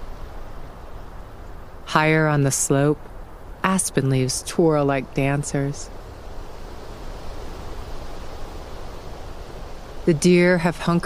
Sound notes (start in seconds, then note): 5.8 wind intensifies